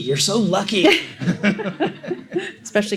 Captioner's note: laughing